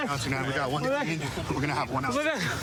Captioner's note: excited chatter